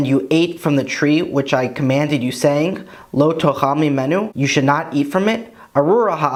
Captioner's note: Hebrew